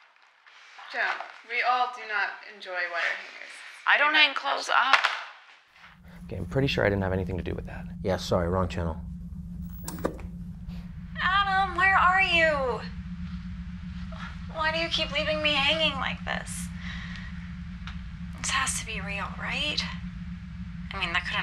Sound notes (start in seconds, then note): 9.7 click